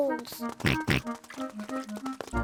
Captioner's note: oinks